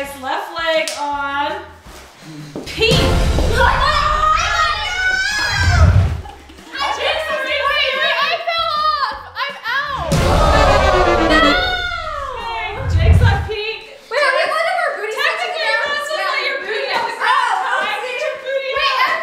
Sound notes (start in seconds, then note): 4.2 exclaims; 10.0 defeated horns